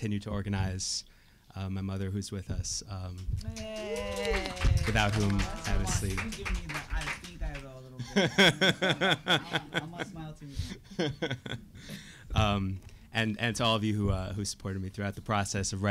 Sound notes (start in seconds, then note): 3.4 cheering; 3.4 audience applauding; 8.0 laughing